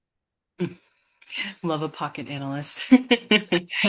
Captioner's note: laughing